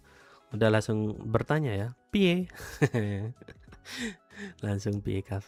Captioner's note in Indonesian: tertawa